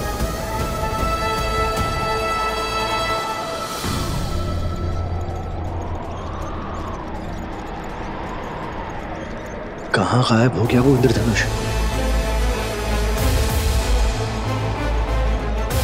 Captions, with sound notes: [suspenseful music playing] [wind whooshing] 'Where did the rainbow disappear?' [suspenseful music playing]